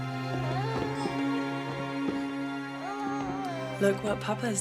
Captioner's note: baby crying